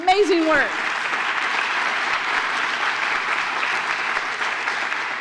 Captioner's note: applause